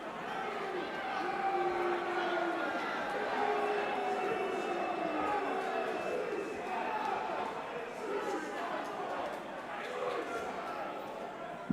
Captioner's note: crowd chatter